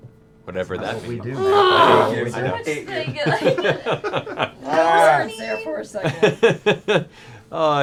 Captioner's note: nervous chatter and laughter